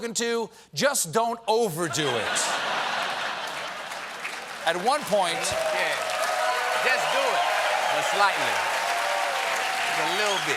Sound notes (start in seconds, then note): 2.9 applause; 4.1 laughter